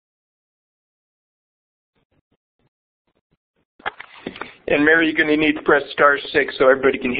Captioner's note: silence